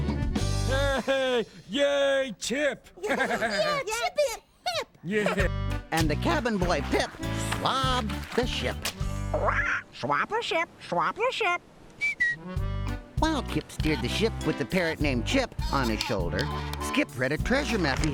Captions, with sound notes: HEY! YAY, CHIP! YEAH, CHIP IS HIP! ( squawks ) ( whistles )